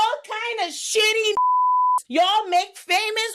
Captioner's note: beep